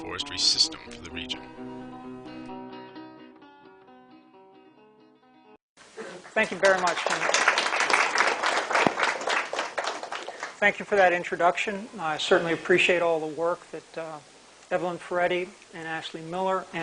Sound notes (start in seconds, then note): 6.0 applause